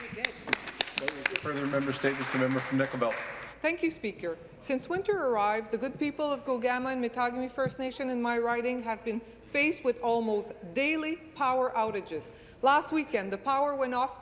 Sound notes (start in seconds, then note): 4.4 applause